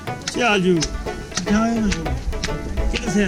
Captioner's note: speaking Balti